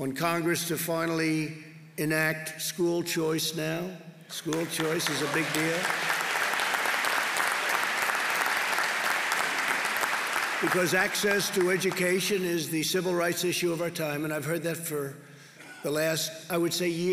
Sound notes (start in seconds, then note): 7.1 applause